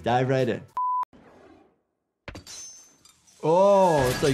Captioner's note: high-pitched tone